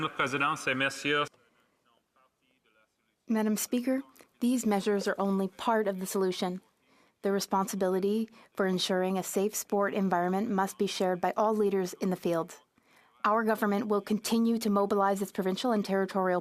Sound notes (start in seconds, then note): 8.9 speaking French